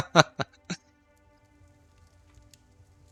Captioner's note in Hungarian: nevetés